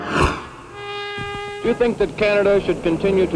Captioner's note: horn